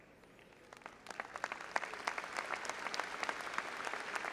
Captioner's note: all applauding